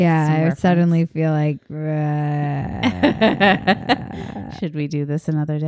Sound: grumbling

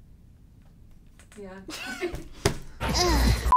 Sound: laughing

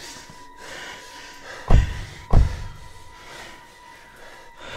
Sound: soft thumping

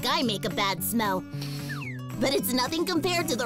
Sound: sniffs

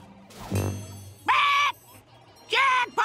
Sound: squawking

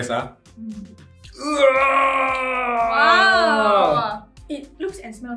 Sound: groaning noises

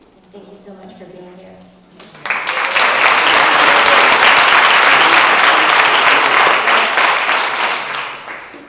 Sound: applause

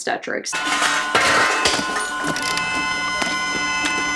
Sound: monitors beeping

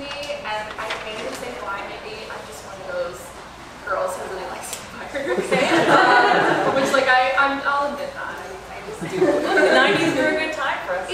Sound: laughter

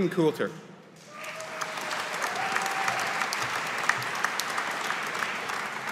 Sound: audience applauding

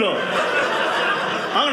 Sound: audience laughing

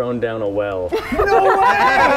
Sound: laughter

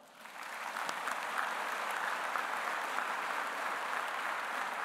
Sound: audience applauding

